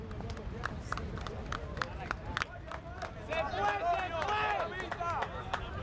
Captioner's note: supporters clapping